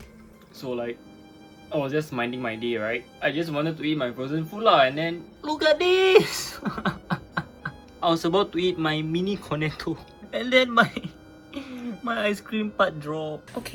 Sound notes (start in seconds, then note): 6.1 sobbing in sadness; 11.5 gasping for air at this point